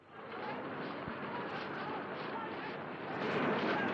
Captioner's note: street noise